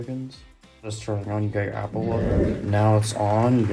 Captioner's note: iMovie Theme transition sound effect